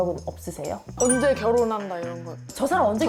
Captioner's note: curious sound effect